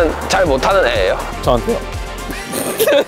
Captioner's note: gulp